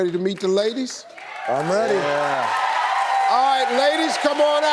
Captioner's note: audience cheering